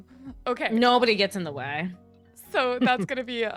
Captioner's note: laughing